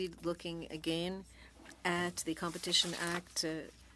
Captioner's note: speaking French